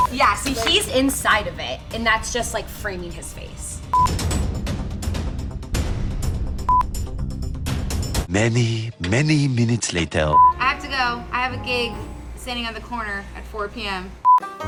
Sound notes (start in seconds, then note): 3.9 two beeps; 10.3 beep; 14.1 beep; 14.4 country music plays